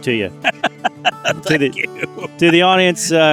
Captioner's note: laughing